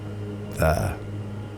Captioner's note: exhale